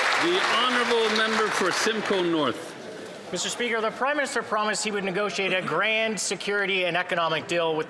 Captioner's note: some Applause